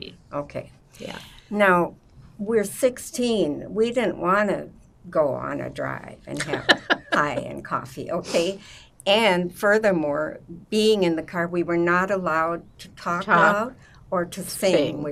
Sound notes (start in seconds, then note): 6.4 laughing